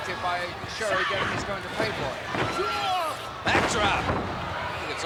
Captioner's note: body thudding